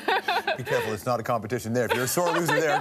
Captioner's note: laughs